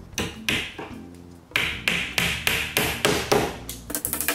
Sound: banging noise

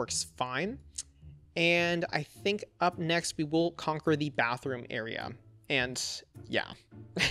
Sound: laughs

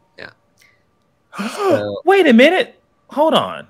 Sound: gasps

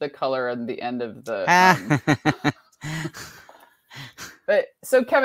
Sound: laughs

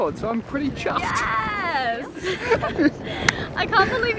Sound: both laughing

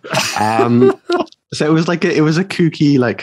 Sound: laughing

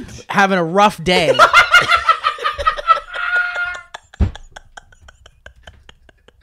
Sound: eruption of Laughter

